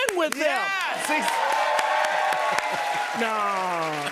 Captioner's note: cheers and applause